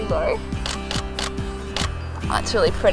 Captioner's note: camera shuttering